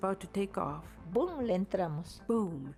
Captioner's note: speaking in foreign language